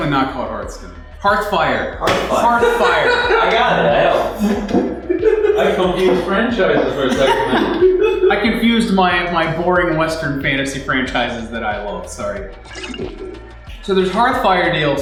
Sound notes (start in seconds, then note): 2.2 laughter